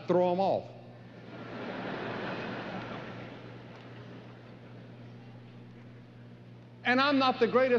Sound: laughter

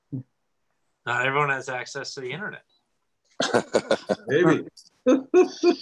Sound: laughs

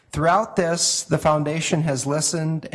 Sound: none

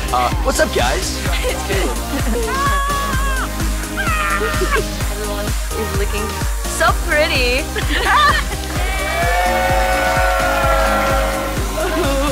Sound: screaming; applause

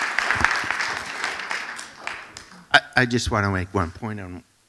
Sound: applause

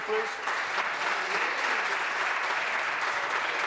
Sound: applause

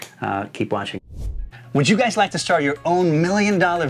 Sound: air swooshing

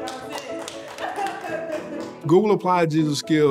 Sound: laughs

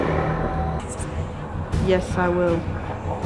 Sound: ominous music; faintly whispers

